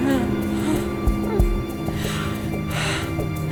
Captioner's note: Katie groaning